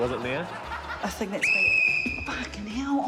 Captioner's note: whistle trills